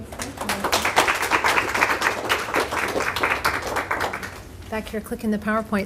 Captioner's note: applause